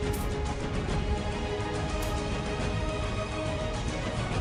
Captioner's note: sword whooshing